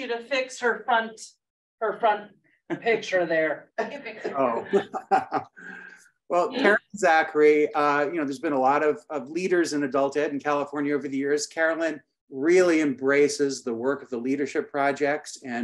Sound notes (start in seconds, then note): 4.1 chuckles